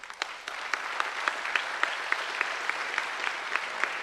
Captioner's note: applause